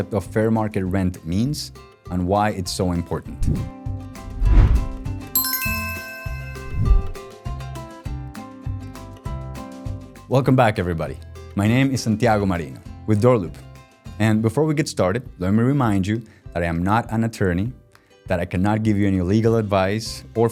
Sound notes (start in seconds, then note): 4.2 air whooshing; 5.3 upbeat music; 5.3 bell chiming; 6.9 air whooshing